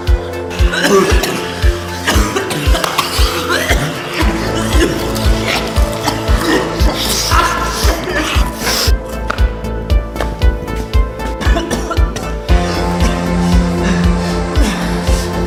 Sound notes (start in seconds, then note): 0.6 coughing; 4.1 munching noises